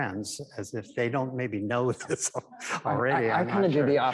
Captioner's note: chuckles